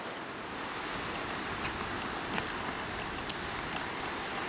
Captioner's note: waves crashing